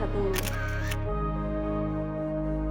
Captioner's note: camera shutter clicking